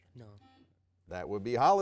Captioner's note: buzzer dings